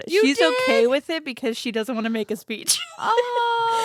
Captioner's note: laughs